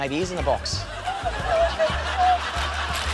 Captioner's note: laughter